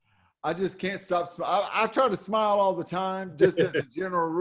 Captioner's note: laughs